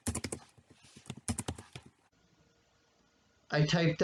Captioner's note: tapping of the keyboard